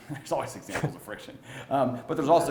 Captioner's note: chuckling; audience laughing